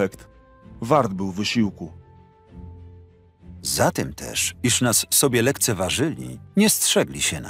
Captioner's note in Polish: Lektor